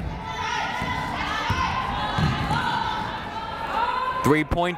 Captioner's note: yelling